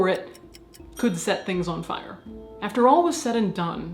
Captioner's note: bell chimes